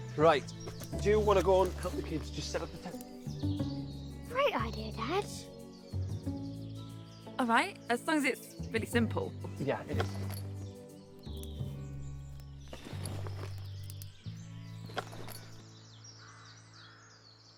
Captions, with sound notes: - Right, do you want to go help the kids set up the tent? - Great idea, Dad! - Alright, as long as it's really simple! - Yeah, it is. (gentle orchestral music continues) (birds chirping)